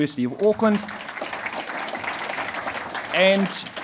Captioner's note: applauding